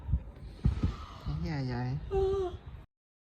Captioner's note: yawn